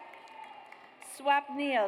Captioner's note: audience cheers